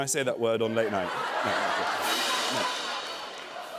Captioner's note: laughter